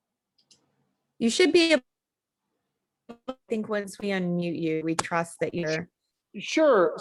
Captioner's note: audio cutting out